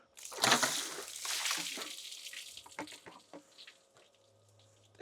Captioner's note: water splashing